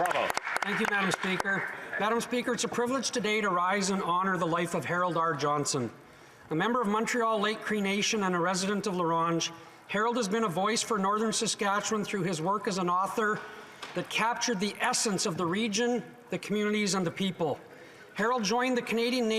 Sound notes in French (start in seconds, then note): 2.6 applaudissements; 5.1 voix de l'interprète